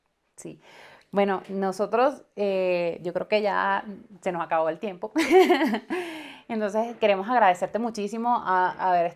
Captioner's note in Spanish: risas